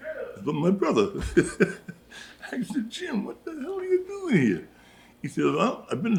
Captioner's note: laughs